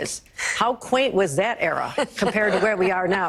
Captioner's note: panelists laugh